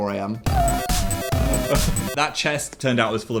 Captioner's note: video game beeps